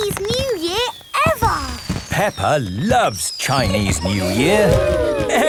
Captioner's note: exclamations